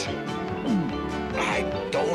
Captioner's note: gulp